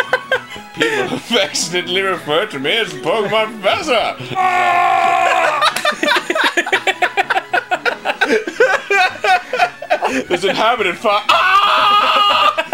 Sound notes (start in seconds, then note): 6.3 laughing like crazy off screen